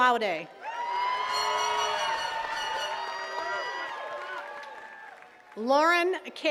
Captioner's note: attendees cheering and clapping